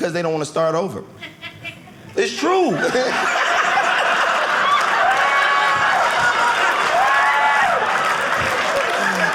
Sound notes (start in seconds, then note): 1.0 audience member laughing; 3.1 audience laughing